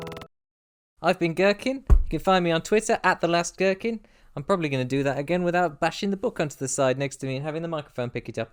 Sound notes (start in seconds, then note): 0.0 outro music; 1.9 thump